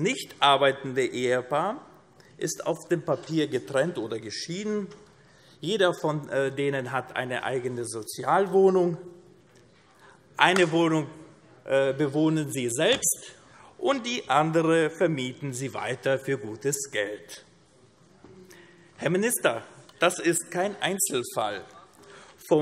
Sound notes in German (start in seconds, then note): none